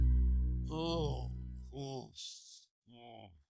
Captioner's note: moans